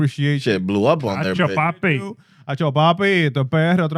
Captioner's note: speaking In Foreign Language